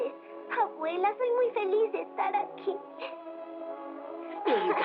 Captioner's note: chuckles